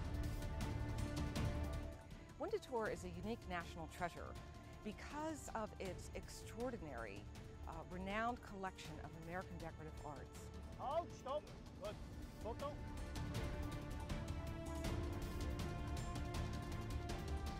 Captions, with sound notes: (dramatic music) - Winterthur is a unique national treasure because of its extraordinary, renowned collection of American decorative arts. (speaking in foreign language) (dramatic music)